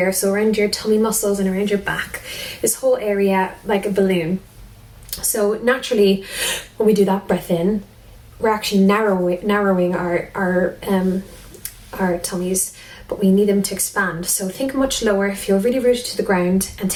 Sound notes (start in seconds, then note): 6.5 breathes